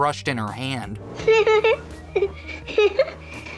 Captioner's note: giggles